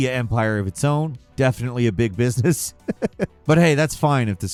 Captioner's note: chuckles